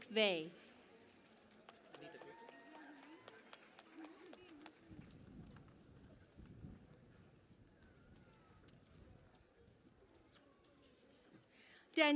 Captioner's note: cheering and Applause